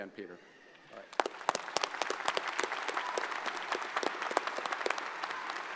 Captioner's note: audience applauds